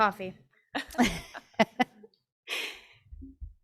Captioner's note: person laughing